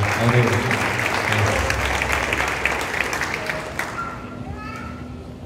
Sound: cheers and Applause

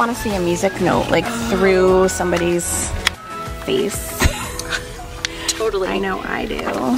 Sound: both laughing

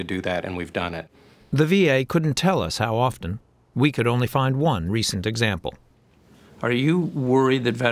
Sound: voice-over

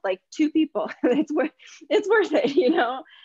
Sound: chuckles

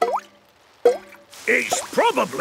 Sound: water dripping

